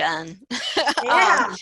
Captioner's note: laughter